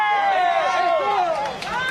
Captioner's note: crowd cheering